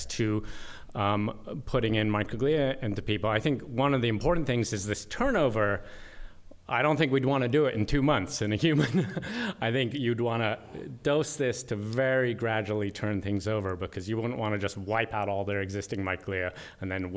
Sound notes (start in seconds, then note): 8.7 laughter